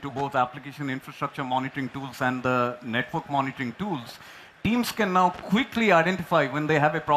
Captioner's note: applause